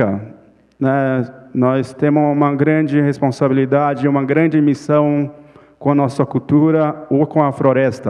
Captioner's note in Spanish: Ponente habla en portugués